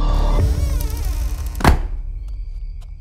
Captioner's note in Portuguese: música de suspense; porta fechando